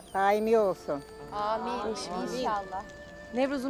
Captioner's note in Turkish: Hep bir ağızdan